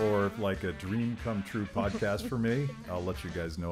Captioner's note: laughing